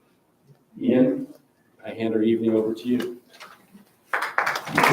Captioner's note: round of applause